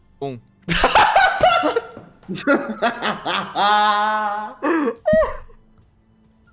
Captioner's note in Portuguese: Risos